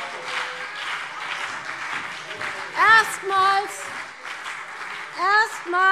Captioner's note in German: Beifall BÜNDNIS 90/DIE GRÜNEN und vereinzelt CDU - Zurufe